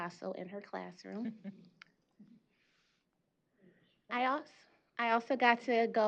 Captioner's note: chuckles